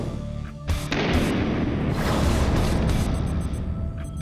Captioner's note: heavy metal music; gun fire